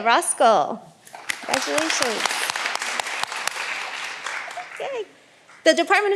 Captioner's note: all applauding